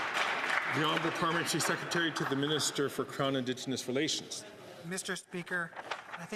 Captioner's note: some Applause